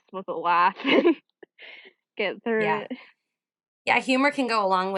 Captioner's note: chuckles